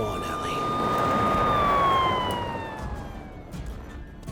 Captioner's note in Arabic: عويل صفارات الإنذار; موسيقى متوترة; خطوات بطيئة